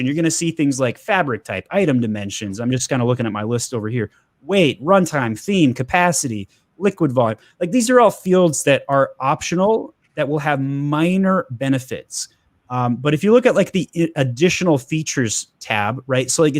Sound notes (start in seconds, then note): none